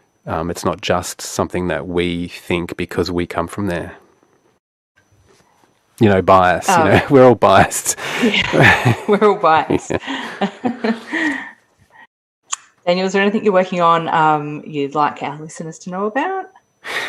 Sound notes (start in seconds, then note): 10.5 laugh